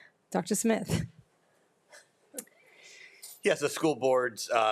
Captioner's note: laughs